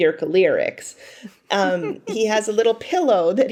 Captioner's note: chuckling